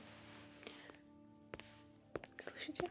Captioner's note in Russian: шаги